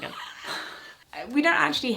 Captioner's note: they both laugh